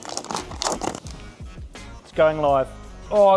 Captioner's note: plastic rustles